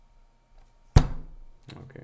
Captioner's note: bam